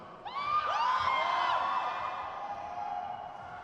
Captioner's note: crowd cheers